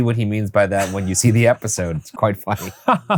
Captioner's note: laughing; laughs